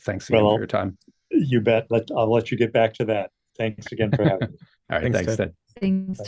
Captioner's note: chuckles